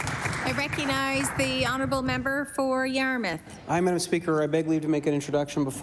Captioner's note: applause